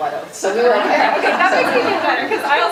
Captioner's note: audience laughing